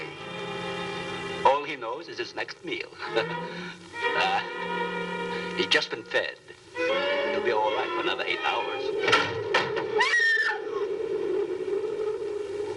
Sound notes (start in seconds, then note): 9.0 crashing; 9.8 screams